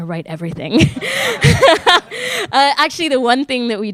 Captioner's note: everyone laughing